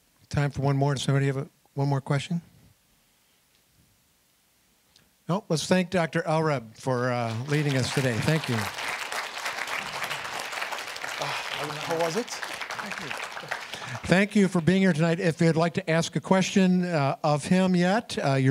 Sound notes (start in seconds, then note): 10.0 applause; 13.0 applause